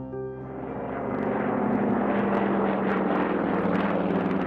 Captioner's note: airplane engines droning; dramatic, somber music